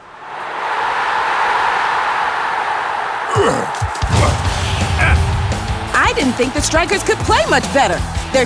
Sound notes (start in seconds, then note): 0.0 crowd cheering; 3.2 grunting